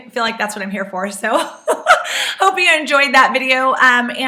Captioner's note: laughs